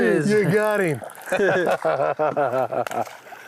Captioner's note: laughs